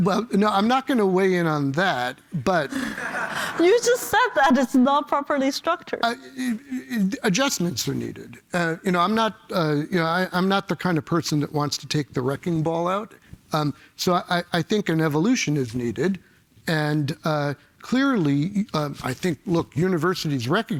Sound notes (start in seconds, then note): 2.7 laughter